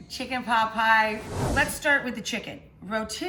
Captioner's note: air whooshing